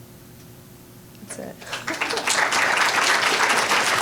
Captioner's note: applause; chuckling